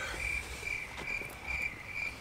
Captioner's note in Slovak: krásne zvuky cvrčkov